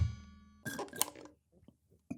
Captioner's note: choking on coffee